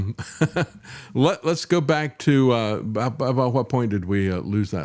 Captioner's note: laughs